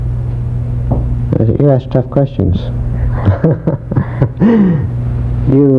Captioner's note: laughs